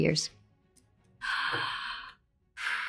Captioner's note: Anne gasping; Anne sighing